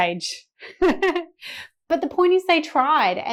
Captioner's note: laughs